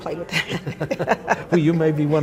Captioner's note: both laughing